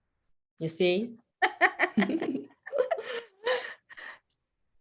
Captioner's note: laughs